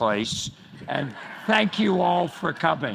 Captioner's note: crowd laughs